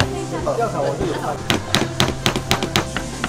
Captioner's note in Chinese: 一直敲敲打打ing